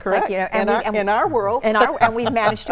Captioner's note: laughs